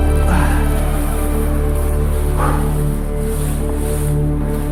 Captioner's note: breathing heavily